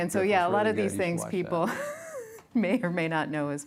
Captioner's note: chuckles